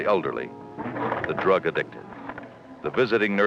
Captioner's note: rotary phone dialing